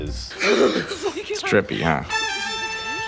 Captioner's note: chuckles